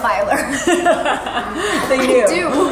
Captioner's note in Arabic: كلاهما يضحك